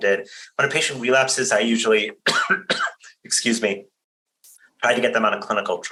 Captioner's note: coughs